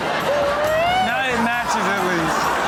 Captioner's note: audience laughs